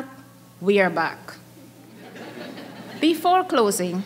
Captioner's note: audience chuckling